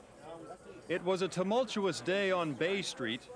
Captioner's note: indistinct chatter